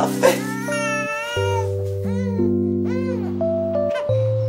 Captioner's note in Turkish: Bebek ağlamaya başlar